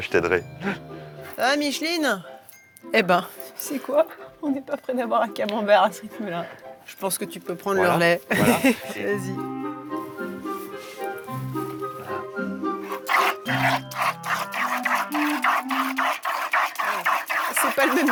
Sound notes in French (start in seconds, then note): 13.6 rires